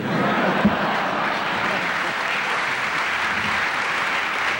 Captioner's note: laughter and applause